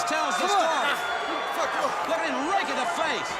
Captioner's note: crowd cheering